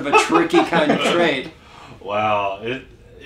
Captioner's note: laugh